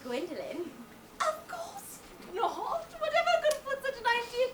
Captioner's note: laughs